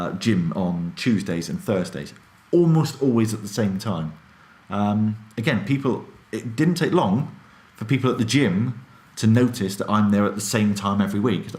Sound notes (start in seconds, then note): none